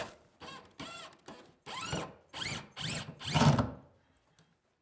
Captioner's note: drilling sounds